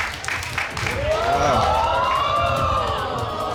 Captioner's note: audience cheering